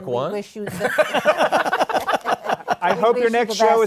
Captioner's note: laughter